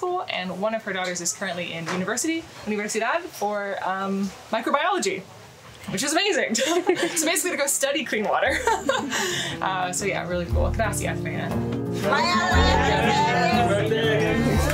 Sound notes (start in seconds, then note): 2.6 foreign language; 11.0 speaking foreign language